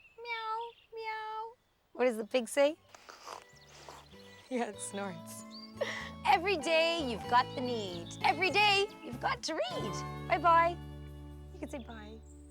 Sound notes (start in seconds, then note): 3.0 snorting